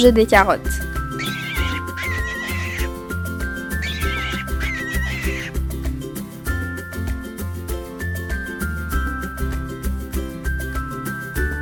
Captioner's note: the rabbit squeals